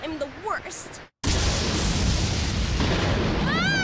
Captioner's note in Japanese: 落雷